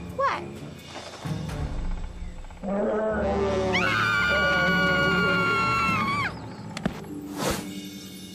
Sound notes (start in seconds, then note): 2.6 bear Roaring; 3.7 Katie and Sadie Screaming